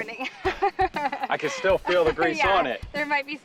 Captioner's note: laughing